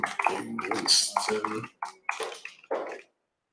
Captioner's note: typing